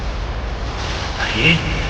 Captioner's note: thunder